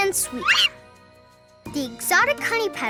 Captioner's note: monkey squeaks